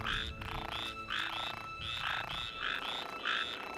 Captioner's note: croaking